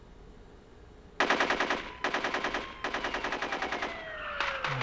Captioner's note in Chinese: 持續槍聲